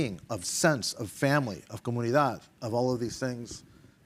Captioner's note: speaking in Spanish